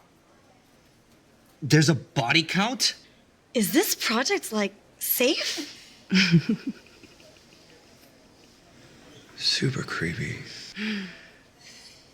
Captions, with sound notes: There's a body count? Is this project like... safe? (Mara Laughing) Super creepy.